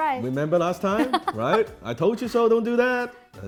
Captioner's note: laughs